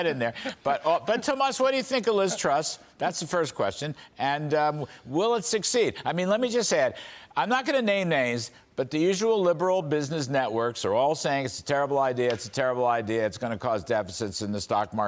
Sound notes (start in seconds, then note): 2.1 laughter